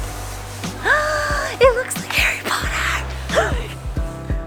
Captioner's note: gasps